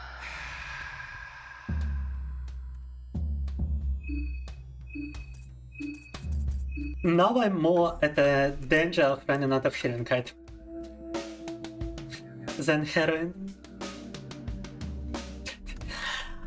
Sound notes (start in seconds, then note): 2.8 beeping